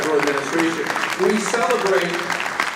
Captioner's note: audience applauding